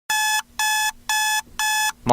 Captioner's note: beep